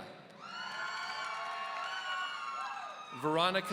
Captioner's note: audience cheering